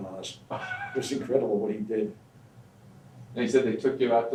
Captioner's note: laughs